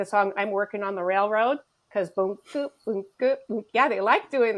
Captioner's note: humming